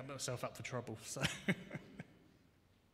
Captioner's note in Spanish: Risas